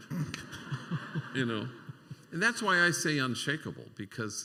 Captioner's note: laughter